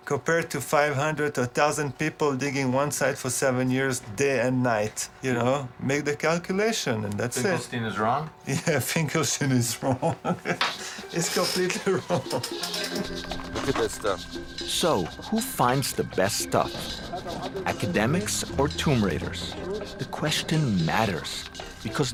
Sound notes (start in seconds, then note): 9.4 laughing